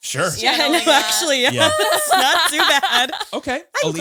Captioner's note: laughs